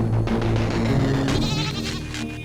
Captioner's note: lamb bleating